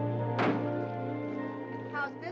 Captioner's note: whimsical music; door bangs shut